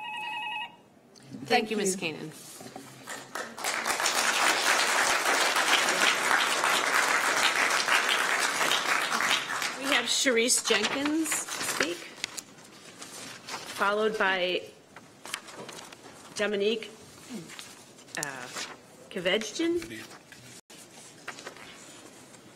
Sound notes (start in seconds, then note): 5.7 applause